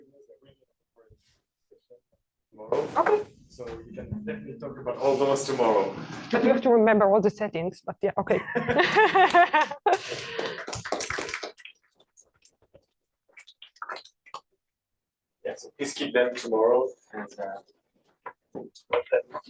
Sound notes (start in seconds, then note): 8.4 laughs; 9.9 applause